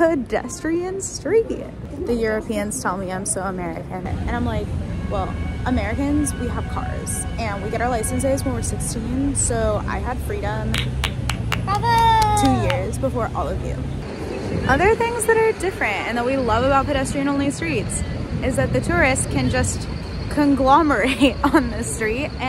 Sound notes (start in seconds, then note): 10.7 applause. Bravo!